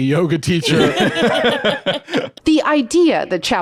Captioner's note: laugh